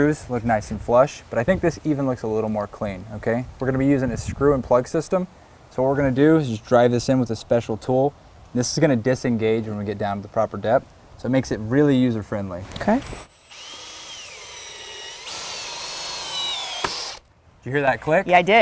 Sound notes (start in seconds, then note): 12.6 drill sound